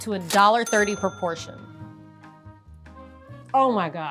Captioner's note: register dings